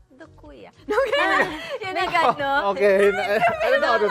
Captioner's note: laughter